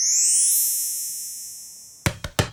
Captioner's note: ball bounces